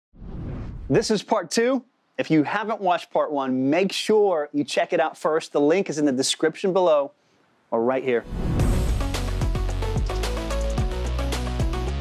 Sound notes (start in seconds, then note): 0.1 whooshing; 8.5 upbeat electronic music